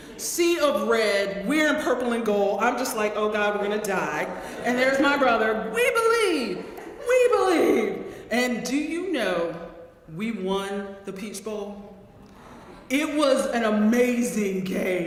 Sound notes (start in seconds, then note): 4.2 laugh